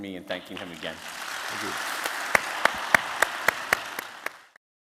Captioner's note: applause